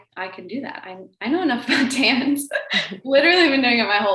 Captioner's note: laughs